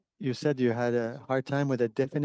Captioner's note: speaking French